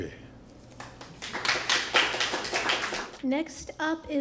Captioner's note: applause